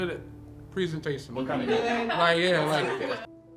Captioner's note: laughter